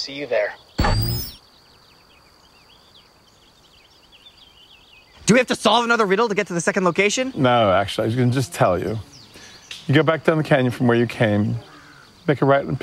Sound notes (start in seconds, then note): none